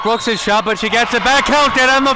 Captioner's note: whistle blows